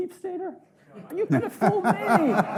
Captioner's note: audience laughing